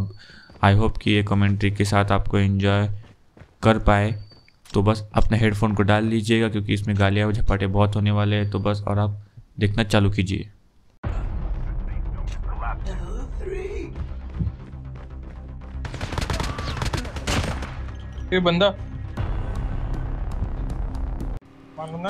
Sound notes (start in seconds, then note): 15.8 Firing shots